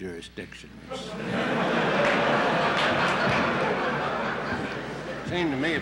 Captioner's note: laughter in the courtroom